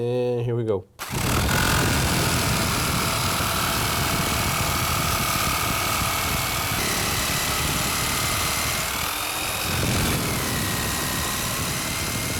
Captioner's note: sound of a drill